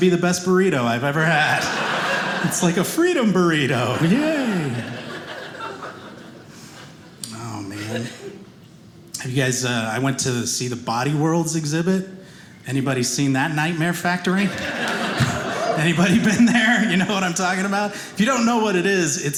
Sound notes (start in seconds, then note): 3.4 audience laughing